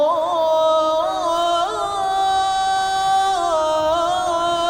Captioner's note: chanting continues